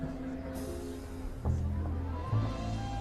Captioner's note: people chattering softly